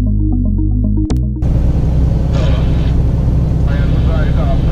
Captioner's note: CB Radio noises